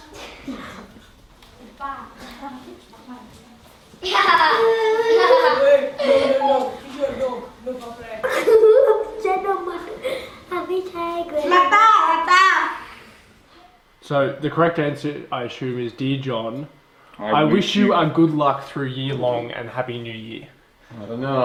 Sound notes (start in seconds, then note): 4.0 children giggle